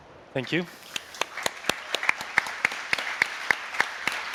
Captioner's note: applause